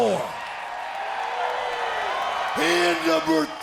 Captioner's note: audience cheers